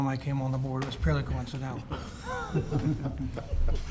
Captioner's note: laughter